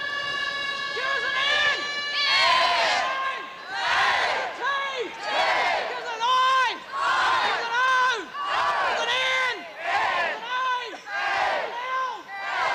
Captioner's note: chanting